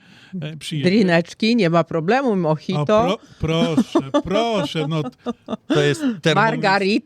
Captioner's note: śmiech